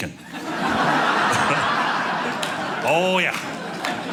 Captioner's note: audience laughing